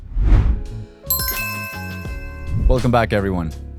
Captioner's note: air whooshes; bell dings